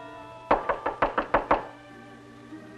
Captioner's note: knocking on door; stirring music